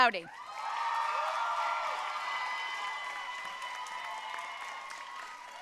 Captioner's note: audience cheering and applauding